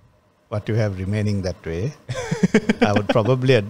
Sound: laughs

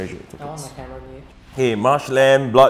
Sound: players chattering

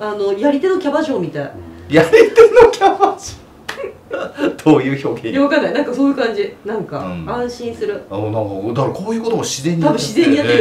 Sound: laughs

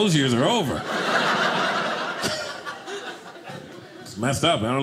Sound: audience laughing

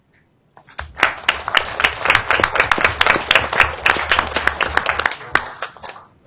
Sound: audience applauds

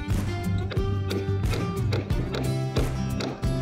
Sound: hammer thuds

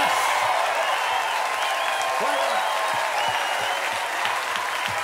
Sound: cheers and applause

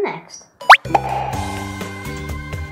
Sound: squeaky pop

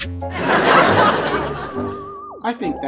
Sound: audience laughing

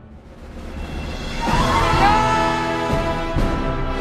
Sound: cheering

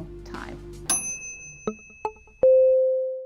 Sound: ding

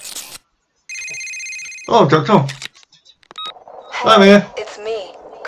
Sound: phone rings

